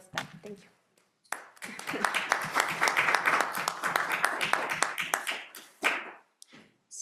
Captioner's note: audience applauding; chuckling